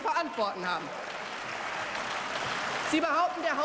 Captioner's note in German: Beifall